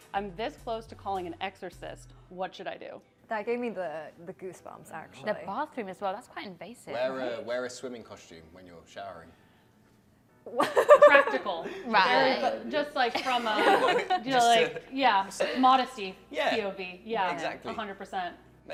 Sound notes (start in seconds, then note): 10.6 laughs